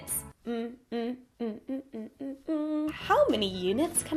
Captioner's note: humming happily